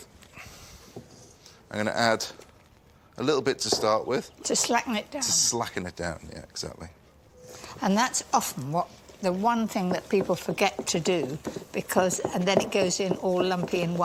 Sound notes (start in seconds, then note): none